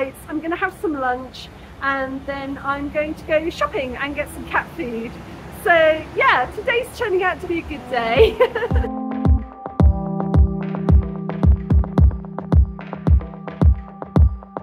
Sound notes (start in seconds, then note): 8.0 laughing; 9.4 upbeat music